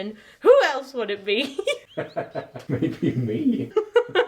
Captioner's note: laughs